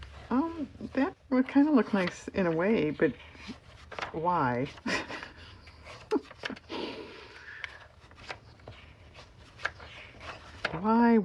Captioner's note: laughs